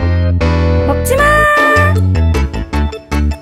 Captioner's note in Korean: 높은소리로